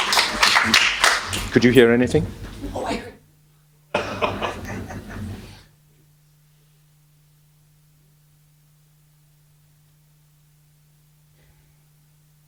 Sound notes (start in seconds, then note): 6.2 laughter; 8.3 pause